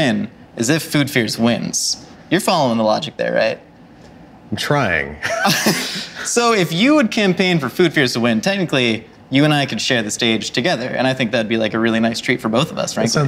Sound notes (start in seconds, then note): 5.2 both laugh